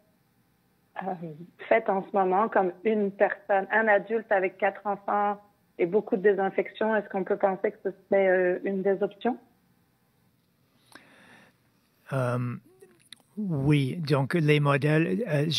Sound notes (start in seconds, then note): 4.4 speaking French